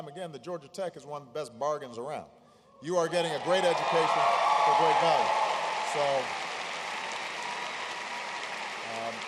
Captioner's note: applause